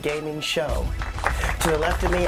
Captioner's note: applause